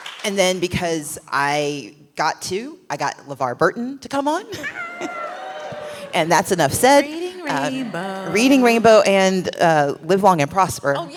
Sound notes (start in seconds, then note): 0.0 applause; 4.6 cheering